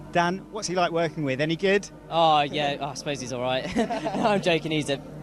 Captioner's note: laughter